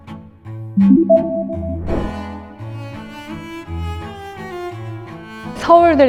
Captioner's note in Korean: 강조하는 효과음